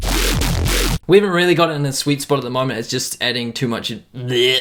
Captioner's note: vomit sound